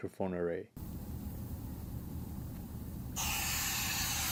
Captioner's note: white noise